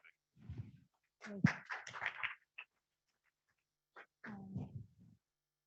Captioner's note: audience applauding